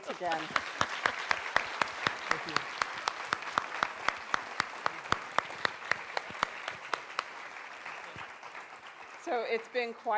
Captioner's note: applause